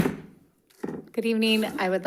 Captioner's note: gavel thudding